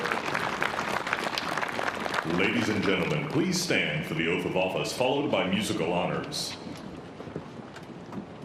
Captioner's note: chchrs a a applause